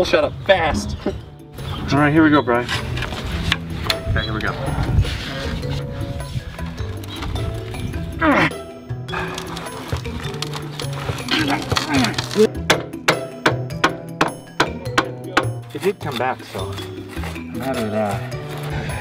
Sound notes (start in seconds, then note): 11.2 more grunting; 12.6 hammering